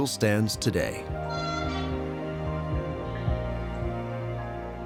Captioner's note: train horn blows